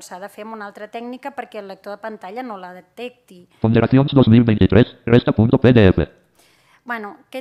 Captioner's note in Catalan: veu del lector de pantalla